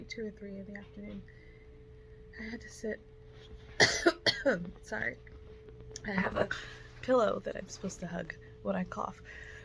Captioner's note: coughs